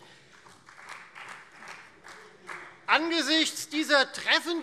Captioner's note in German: Beifall Freie Demokraten